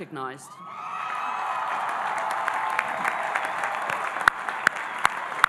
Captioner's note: audience cheering and applauding